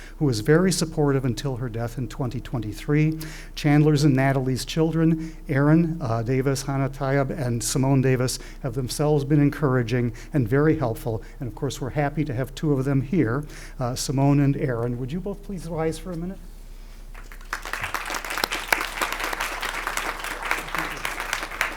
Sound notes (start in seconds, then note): 17.1 crowd applauding